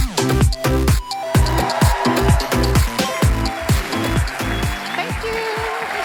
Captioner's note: applause